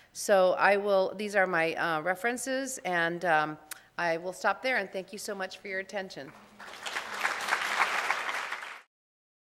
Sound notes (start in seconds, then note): 6.5 applause